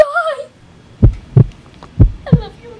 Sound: heartbeat pounding

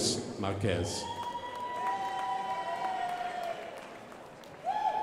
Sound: crowd applauding

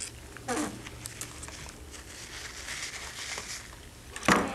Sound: tubes squeaking

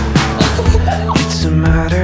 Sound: friends laugh

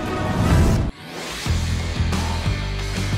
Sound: suspenseful music; graphics whoosh; rock music

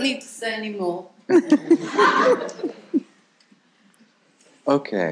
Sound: people laughing

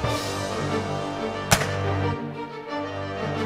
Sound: dramatic music; gun fire; dramatic music

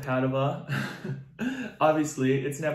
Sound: chuckles

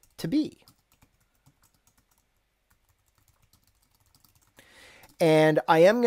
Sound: gentle keyboard strokes

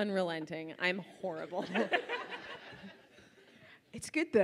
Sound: laughs

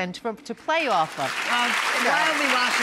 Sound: audience applauds

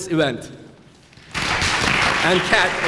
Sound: clapping

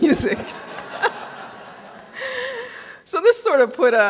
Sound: audience laughing

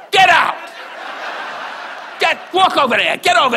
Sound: audience laughs

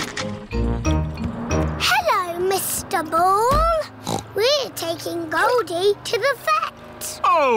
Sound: oinks

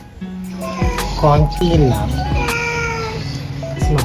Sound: Mapa Meowing

